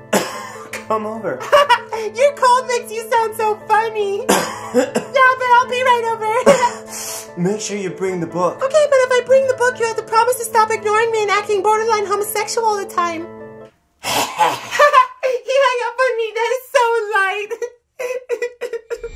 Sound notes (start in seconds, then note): 1.4 laughs; 4.2 coughs; 6.2 laughs; 6.5 coughs and inhales; 14.1 Shinigami laughs; 14.6 laughs; 17.5 laugh turns into tears